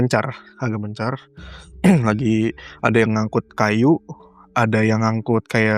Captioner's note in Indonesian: berdehem